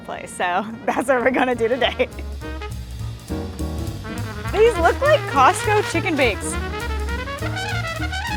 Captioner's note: laughs